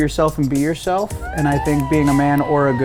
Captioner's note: group cheering and whooping